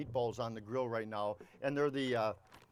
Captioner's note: package crinkles